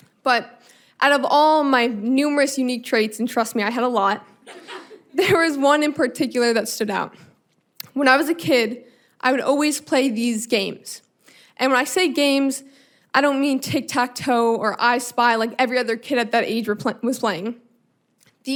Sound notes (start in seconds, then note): 4.4 audience laughing; 4.4 chuckling